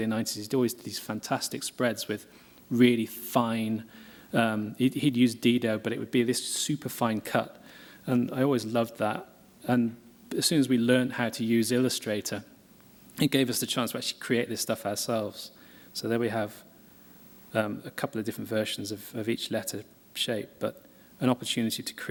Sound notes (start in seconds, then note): none